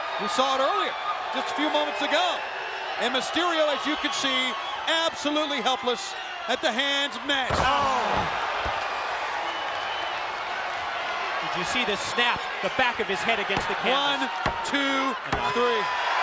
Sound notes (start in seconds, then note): 8.8 audience cheering; 13.1 referee tapping